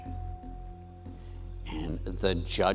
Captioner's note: bell dings